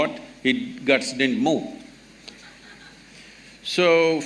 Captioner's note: laughter